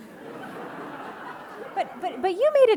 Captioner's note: audience laughing